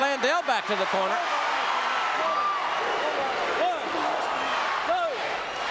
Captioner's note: audience cheering